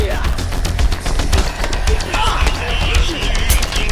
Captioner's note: grunting